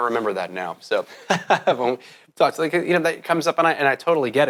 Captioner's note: laughs